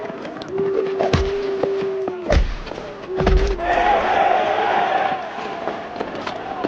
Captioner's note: crowd booing